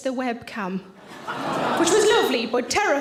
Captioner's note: audience laughing